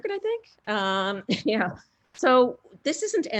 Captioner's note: laughs